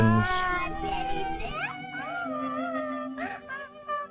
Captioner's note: cooing